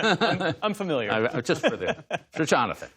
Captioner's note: laughter